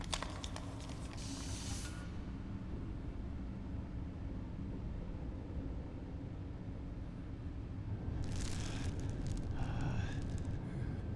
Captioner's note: air hissing